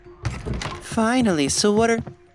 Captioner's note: none